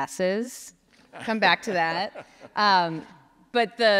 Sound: laughs

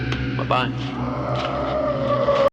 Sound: scary sounds

